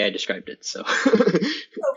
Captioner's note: laughs